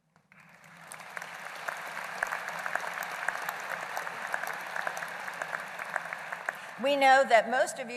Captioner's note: applause